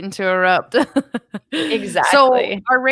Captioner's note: laughs